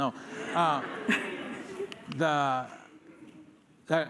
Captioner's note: laughter